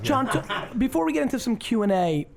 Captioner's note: laughs